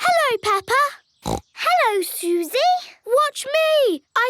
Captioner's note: snorts